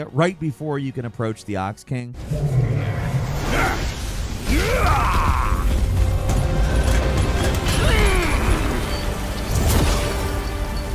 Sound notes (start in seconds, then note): 2.2 creature growling; 8.1 dramatic music